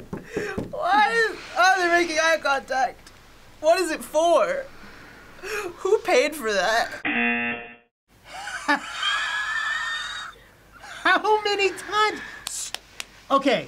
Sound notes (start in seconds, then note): 7.0 buzzer rings; 8.3 laughs